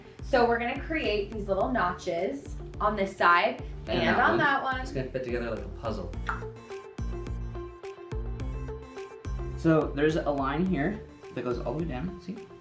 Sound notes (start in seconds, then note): 6.4 clicks tongue; 7.4 upbeat pop music continues